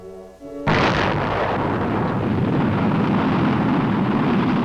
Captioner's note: explosion booming